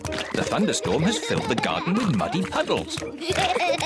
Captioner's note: both laughing